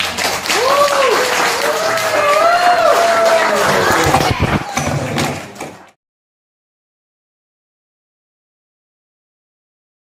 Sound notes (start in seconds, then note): 2.0 claps